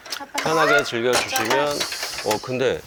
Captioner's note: swinging